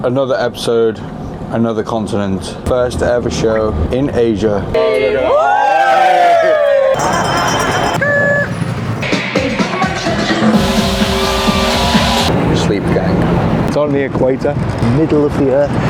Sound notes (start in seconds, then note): 4.7 cheering; 4.8 bell ringing; 9.0 hype electronic dance music